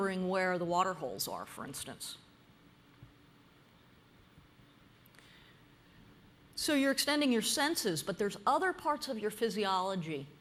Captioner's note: pause